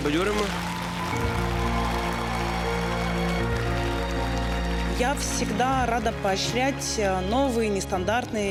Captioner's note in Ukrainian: оплески